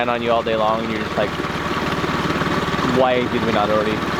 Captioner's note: engine revving